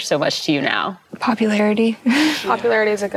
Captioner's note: giggles